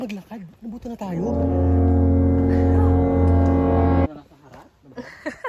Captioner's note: suspense sound effect